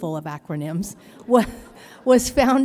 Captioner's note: laughter